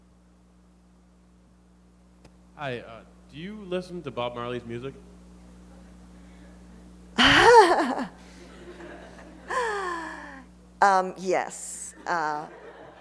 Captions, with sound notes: - [Voiceover] Hi, uh, do you listen to Bob Marley's music? - (laughs) (laughter) Uhm, yes. (laughter)